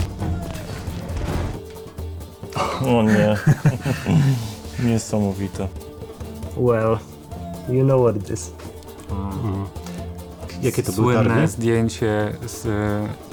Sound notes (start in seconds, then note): 2.8 in Polish; 6.5 in English; 10.7 in Polish